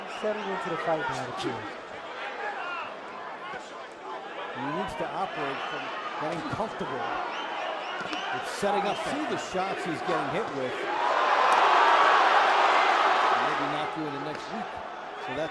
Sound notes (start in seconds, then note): 7.9 cheers; 11.3 cheers